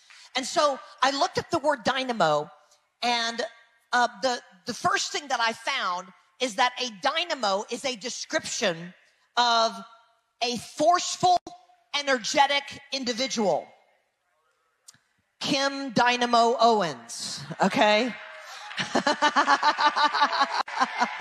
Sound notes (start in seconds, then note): 18.4 audience laughs; 18.6 laughing; 21.0 people cheering